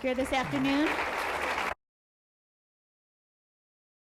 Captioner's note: applause